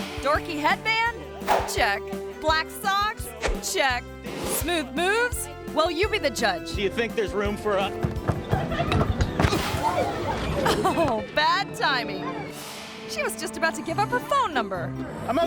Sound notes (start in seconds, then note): 8.4 body thuds; 8.4 feet scuffling